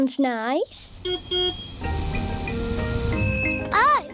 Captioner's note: car horn beeps